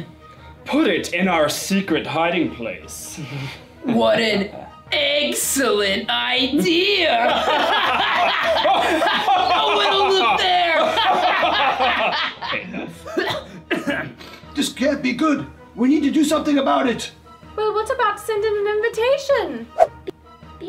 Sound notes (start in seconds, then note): 7.2 laughter